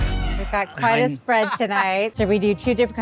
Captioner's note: laughs